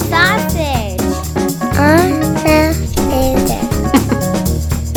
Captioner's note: another child's voice; small child's voice